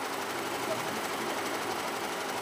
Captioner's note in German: Maschinenrattern